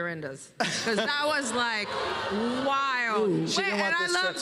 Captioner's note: audience gasps and groans